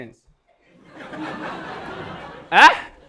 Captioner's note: audience laughing